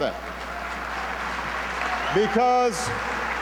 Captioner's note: applause; over applause